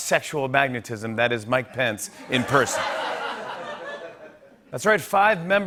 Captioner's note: laughter